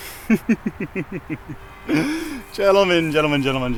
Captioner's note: evil laughter